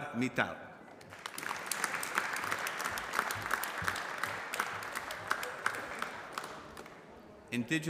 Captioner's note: applause